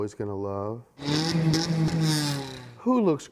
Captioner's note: fart